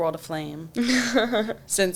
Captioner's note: chuckles